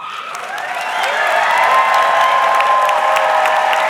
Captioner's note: audience clapping